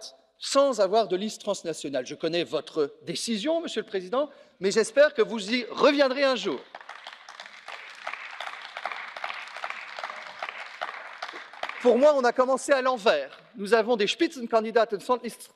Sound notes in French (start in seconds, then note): 6.2 Applaudissements